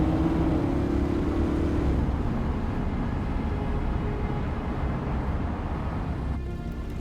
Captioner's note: vehicle droning; suspenseful music continues